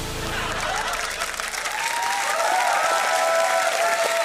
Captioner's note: cheering and applause